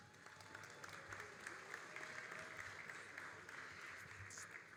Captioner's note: all applauding